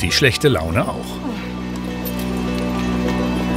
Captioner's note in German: Seufzen, nervöse Musik